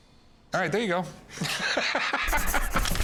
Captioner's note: laughs